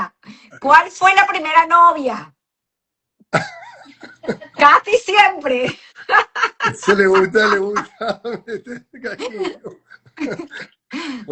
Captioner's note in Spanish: risas